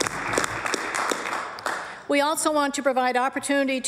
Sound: applause

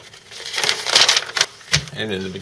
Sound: paper crinkles

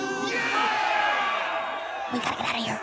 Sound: cheering

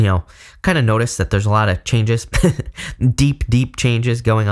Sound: laughs

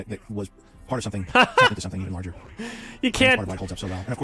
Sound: laughs

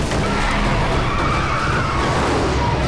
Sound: screeching

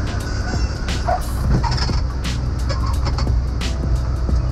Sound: plane wheels squeaking

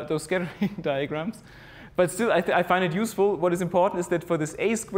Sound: laugh

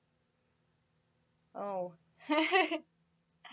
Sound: laughs

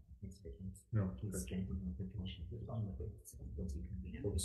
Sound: staff member murmurs

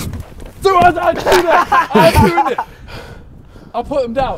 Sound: men shouting; men laughing

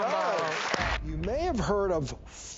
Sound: audience claps

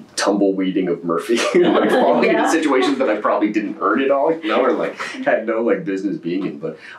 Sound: laughter

